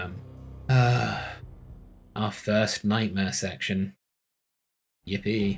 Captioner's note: exhasperated sigh